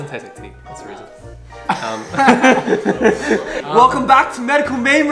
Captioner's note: laughs